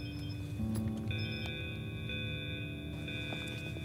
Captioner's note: alarm